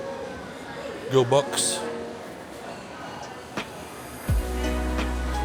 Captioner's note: children chattering